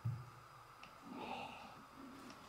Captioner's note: sigh